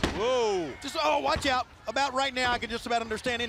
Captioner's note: crowd chatter